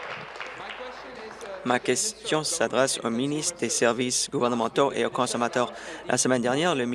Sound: applause

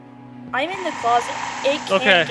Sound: ghostly snarl

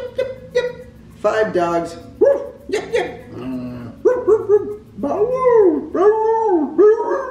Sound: howls

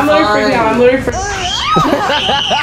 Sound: screams; Tana screams; laugh

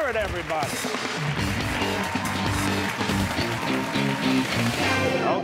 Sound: cheers and applause

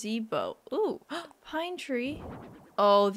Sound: gasp

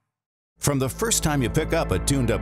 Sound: voiceover

